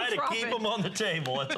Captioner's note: laughter